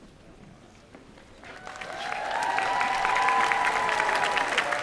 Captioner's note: applause